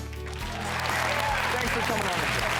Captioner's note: audience Clapping